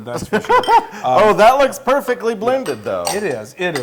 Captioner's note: laugh